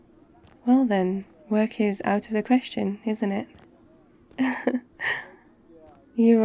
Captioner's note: laughs